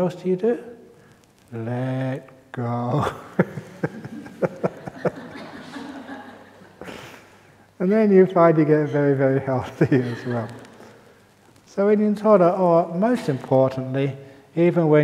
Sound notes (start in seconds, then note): 3.0 laughter